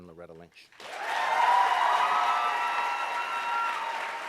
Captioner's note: applauding